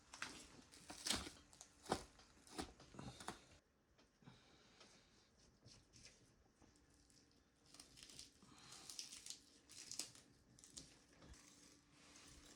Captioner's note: footsteps crunching